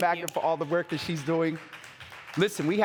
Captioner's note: audience applauding